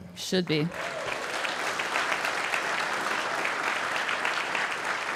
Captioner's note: audience applauding